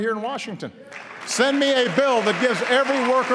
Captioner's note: applause